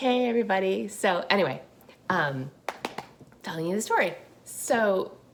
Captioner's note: claps